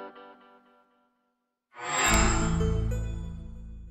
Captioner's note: microsoft sound